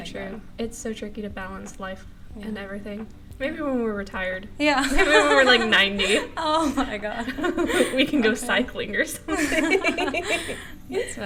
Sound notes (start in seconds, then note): 4.6 laughter; 9.3 more laughter